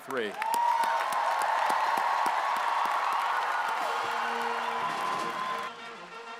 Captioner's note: audience cheers and applauds; triumphant music